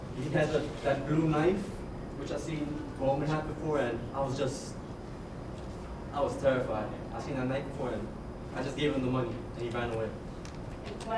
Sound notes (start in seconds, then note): none